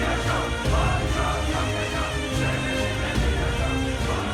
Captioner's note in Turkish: Hep bir ağızdan